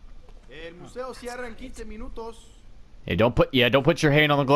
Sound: speaking Spanish

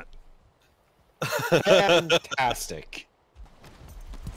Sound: laughter

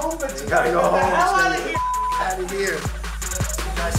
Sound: beep; upbeat music

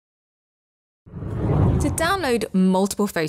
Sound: air whooshes

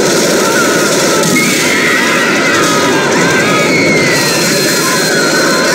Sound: screaming

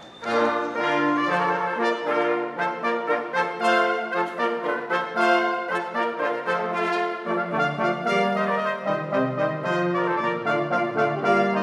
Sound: applause

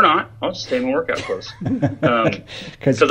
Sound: laughs

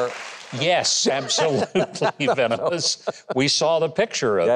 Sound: co-host laughs

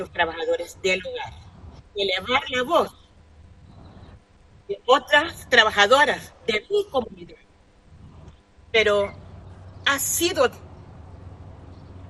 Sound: speaking spanish

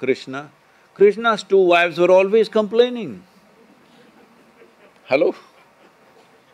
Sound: few laugh

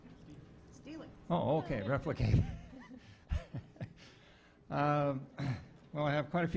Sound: laughter

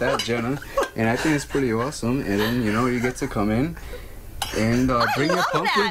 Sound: laughter

